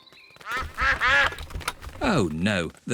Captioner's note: quacking